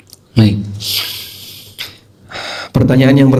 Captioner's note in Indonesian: menghela napas